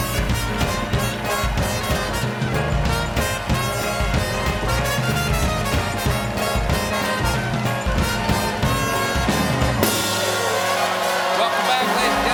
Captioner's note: cheers and applause